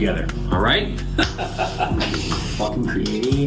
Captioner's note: chuckling